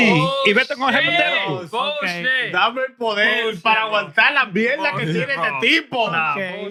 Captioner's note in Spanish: Hablando en idioma extranjero